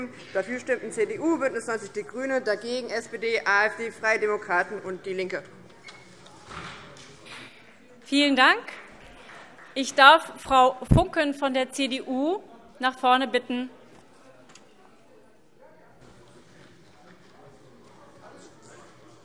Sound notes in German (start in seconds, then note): 5.2 Vereinzelter Beifall BÜNDNIS 90/DIE GRÜNEN